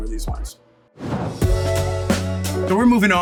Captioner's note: dramatic whooshing; upbeat hip-hop music